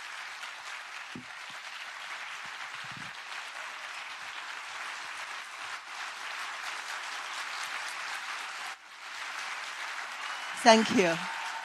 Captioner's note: claps long time